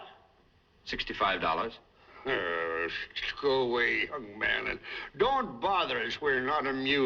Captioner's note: chuckles